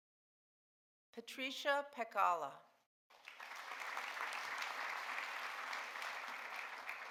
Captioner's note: audience applauding